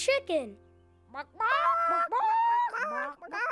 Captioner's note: clucking